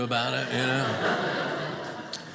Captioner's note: audience laughing